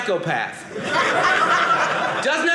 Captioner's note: audience laughing